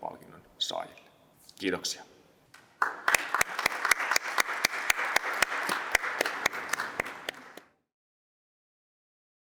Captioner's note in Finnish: aplodeja